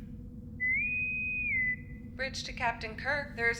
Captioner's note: intercom whistle